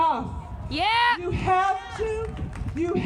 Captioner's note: crowd: Yeah! woo!